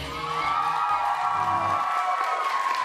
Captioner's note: applause